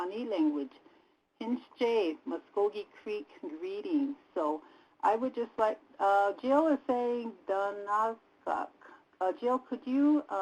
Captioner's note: native language spoken